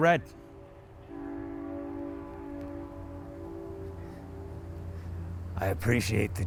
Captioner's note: train horn blowing faintly